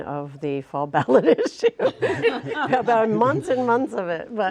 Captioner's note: laughter